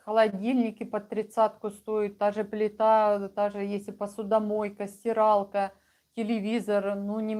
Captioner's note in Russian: none